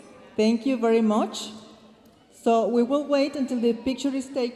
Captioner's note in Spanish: hablando en inglés